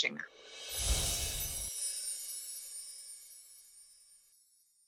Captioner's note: glass explosion